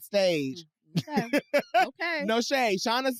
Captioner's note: laughs